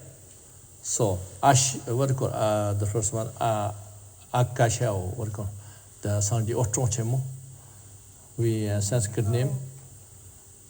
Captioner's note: tibetan